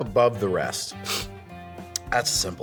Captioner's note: sniff